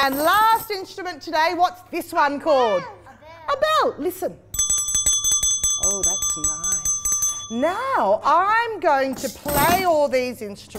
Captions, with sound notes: instrument today. What’s this one called? A bell. A bell. Listen. (ding-a-ling) Oh, that’s nice. Now, I’m going to play all these instruments but I’m going to